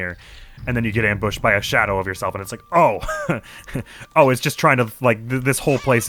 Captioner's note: laughs